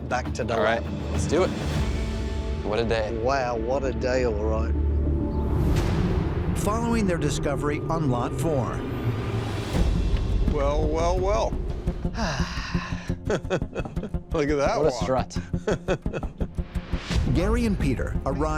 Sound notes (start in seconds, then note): 12.1 sighs; 12.2 laughs